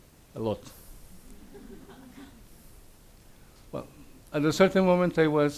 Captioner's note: audience laughs